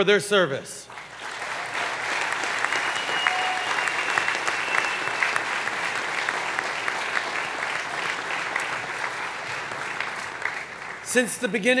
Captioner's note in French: Acclamations et applaudissements